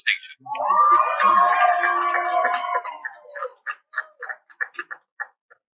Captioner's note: cheering